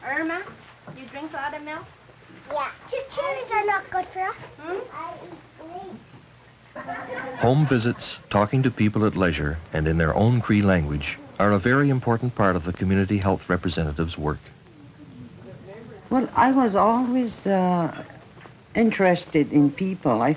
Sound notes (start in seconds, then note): 3.5 students chatter